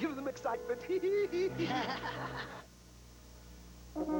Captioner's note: laughs